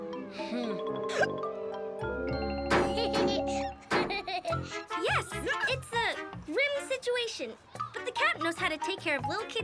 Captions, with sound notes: (boy hiccups) (boy laughing) - Yes, it's a grim situation, but the Captain knows how to take care